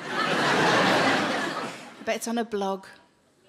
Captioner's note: audience laughing